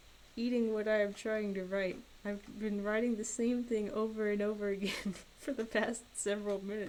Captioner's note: laughs